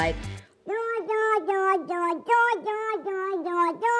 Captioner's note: gurgling